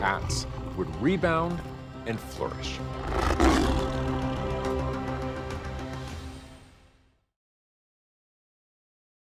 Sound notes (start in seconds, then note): 2.5 tiger growling